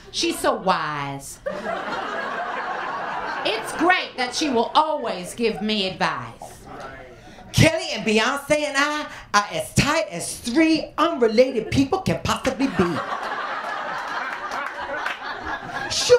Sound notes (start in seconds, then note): 1.4 laughter; 12.6 laughter